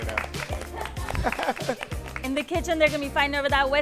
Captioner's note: applauding